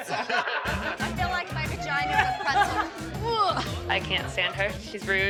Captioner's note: groans